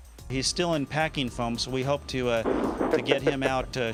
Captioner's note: laughter